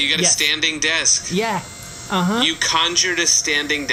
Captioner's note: motorized buzzing of the desk lowering; tiny motorized buzzing